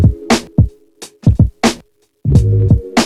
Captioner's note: none